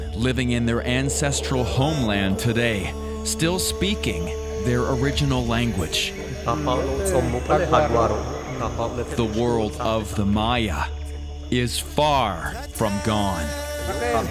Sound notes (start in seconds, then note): 6.6 speaking Mayan